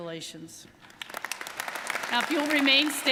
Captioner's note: audience applauding